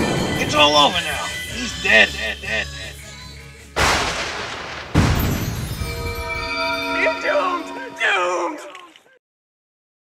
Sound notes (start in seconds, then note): 3.8 thunder; 5.1 scary bells